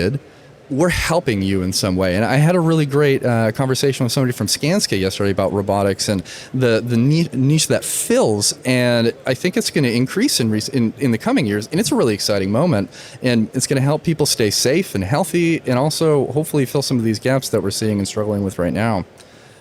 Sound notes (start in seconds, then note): none